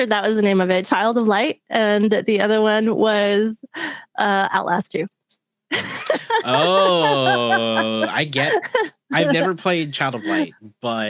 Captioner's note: laughs